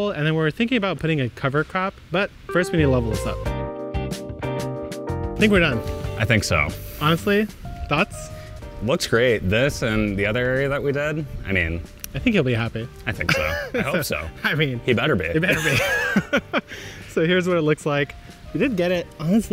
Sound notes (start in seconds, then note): 3.6 light music; 13.2 laughs; 15.4 both laughing